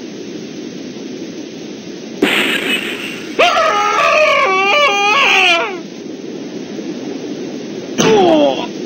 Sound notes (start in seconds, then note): 2.2 glass breaking and screaming continues